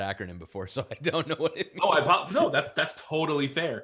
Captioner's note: laughs